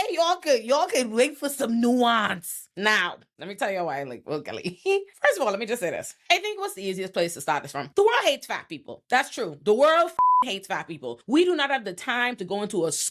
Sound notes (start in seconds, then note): 10.2 beep